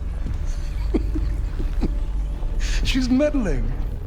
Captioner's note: chuckles with knowing amusement